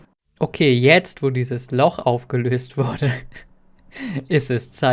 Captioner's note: chuckle